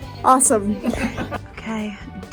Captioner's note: laughs